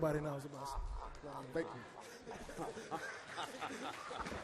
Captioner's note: all laugh